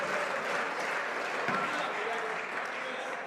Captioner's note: some Applause